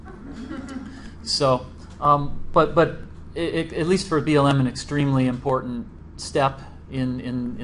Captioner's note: laughter